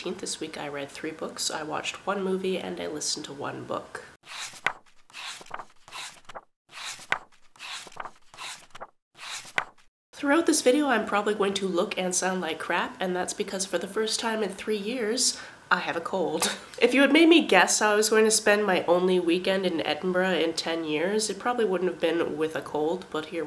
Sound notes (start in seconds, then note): 4.2 pages turning